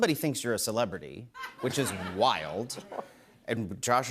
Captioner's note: laughter